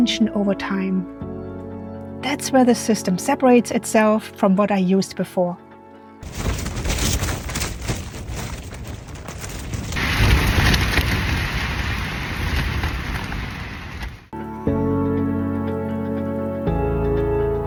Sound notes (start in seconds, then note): 6.2 strong wind sounds and rustling of the tent; 14.4 upbeat music